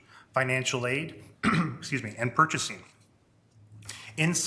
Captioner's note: clears throat